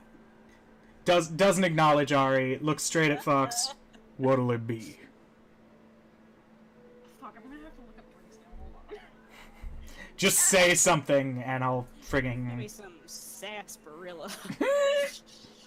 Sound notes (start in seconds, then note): 2.3 laughs; 7.4 nervous noise